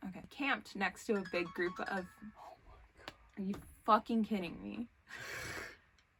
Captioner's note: phone alarm goes off